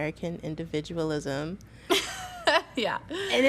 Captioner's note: laughing